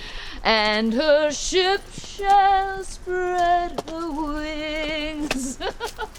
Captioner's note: laughs